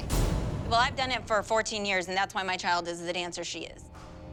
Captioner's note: none